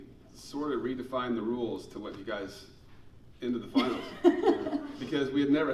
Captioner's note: laughing